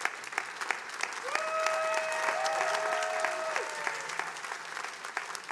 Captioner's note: attendees applauding